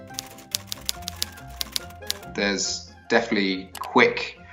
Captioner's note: keyboard clacks